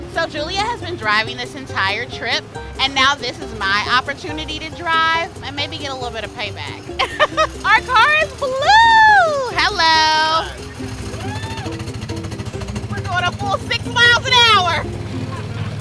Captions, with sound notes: So Julia has been driving this entire trip and now this is my opportunity to drive and maybe get a little bit of payback. (laughs) Our car is blue! Hello. - Hi. (car putters) We're going a full six miles an hour.